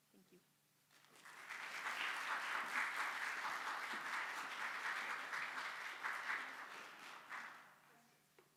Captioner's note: audience applauds